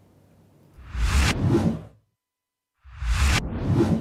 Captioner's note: swoosh